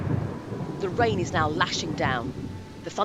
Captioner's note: crack of lightning & roll of thunder